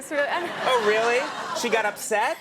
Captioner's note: audience laughing